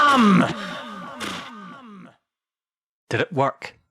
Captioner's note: Plague Doctor Jim's Voice Echoes